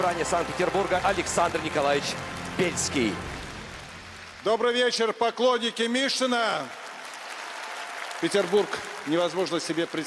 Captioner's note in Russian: аплодисменты